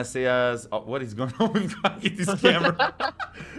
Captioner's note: laughter